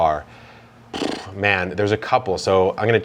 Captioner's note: sighs